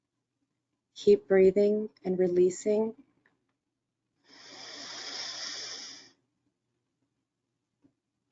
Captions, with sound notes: Keep breathing and releasing. (breathing heavily)